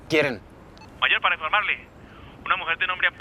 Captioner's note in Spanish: Voz en la radio